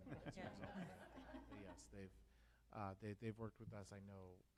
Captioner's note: laughs